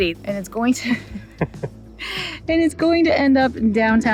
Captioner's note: laughs